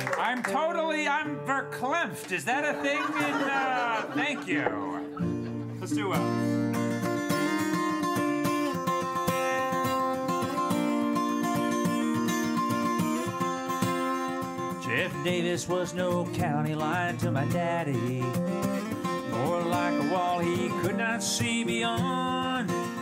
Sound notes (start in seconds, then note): 2.4 audience laughs; 7.8 strumming guitar